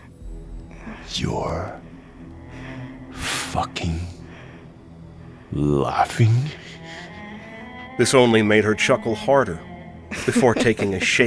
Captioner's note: laughing